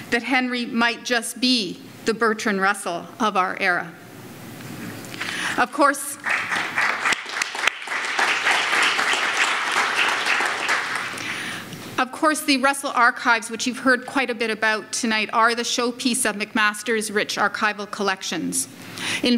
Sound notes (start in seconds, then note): 6.2 audience applauds